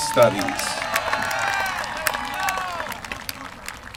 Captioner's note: applause